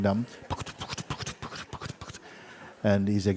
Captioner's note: horse riding sounds